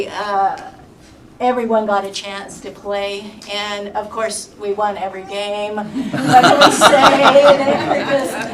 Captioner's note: laughter